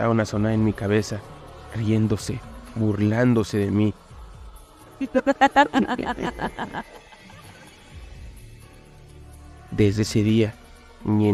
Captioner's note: laughs